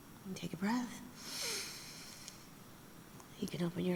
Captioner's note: inhales